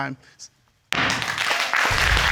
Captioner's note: bangs gavel